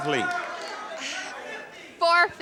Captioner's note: audience shouts incoherently